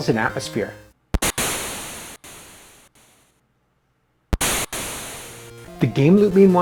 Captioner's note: thunder claps